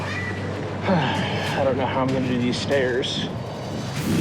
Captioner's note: sighs